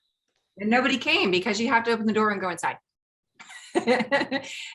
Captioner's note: laughing